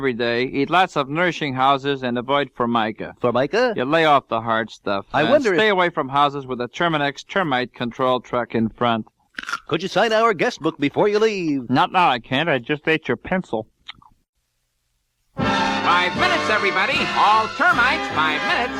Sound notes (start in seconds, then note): 9.4 crunching noise